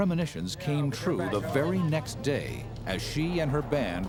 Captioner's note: band members chatting